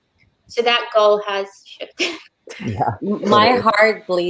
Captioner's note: laughs